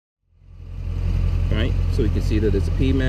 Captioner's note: engine running